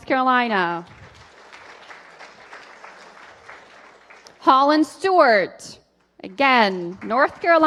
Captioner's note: applause